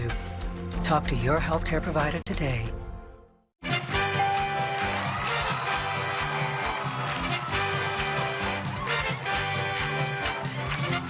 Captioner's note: family cheering